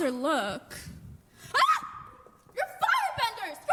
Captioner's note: screams